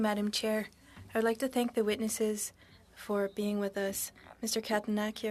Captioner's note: speaking French